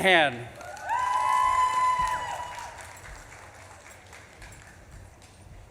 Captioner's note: audience claps and cheers